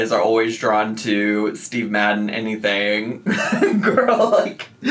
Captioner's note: laughs